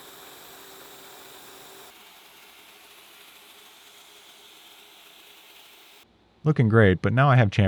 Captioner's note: machine whirring